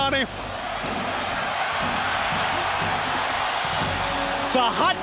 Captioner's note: crowd cheering continues